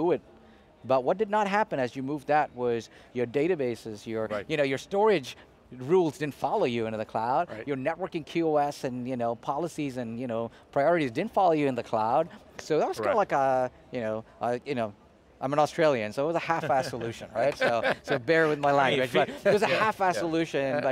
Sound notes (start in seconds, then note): 16.5 group laughing